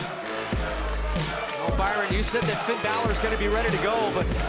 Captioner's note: crowd cheering